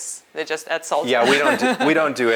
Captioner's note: chuckles